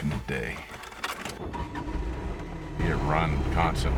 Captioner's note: engine starting